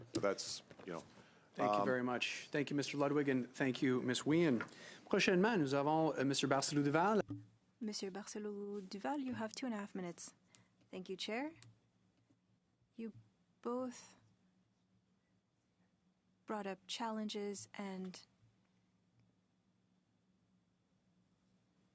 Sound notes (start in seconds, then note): 10.4 speaking in French